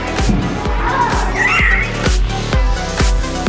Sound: upbeat techno instrumental; squeal; upbeat techno instrumental

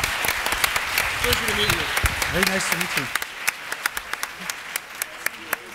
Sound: applause

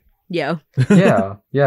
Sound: chuckles

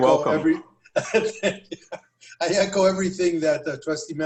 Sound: laughter

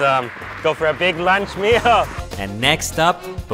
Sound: laughs

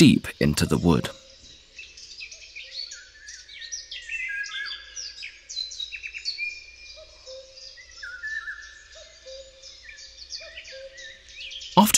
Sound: sounds of nature

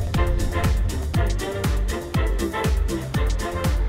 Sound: none

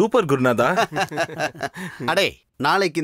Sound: laughs

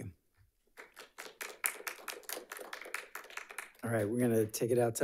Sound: audience applauds

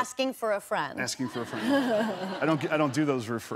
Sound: laughter

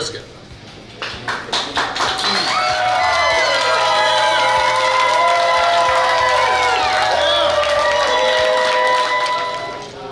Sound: clapping & Cheering

